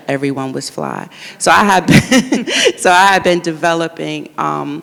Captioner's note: laughs